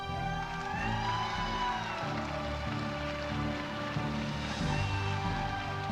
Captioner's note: audience applauding